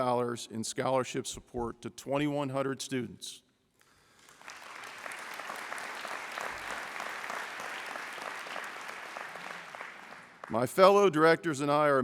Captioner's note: applause